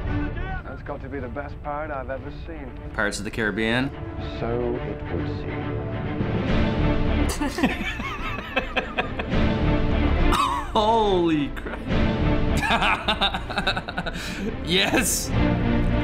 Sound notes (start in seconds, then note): 5.9 exciting instrumental music; 7.3 both laugh; 10.3 chuckles; 12.6 laughs